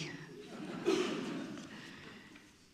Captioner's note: laughs; audience laughing